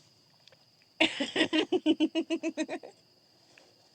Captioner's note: giggles